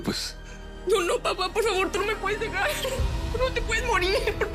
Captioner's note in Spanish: Sollozos